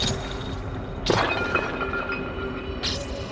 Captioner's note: glass shattering